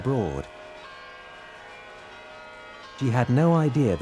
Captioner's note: church bells chiming